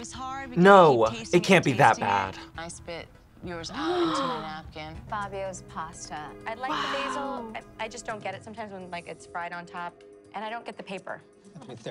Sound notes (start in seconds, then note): 3.7 both gasp